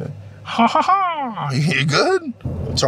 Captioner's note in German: lacht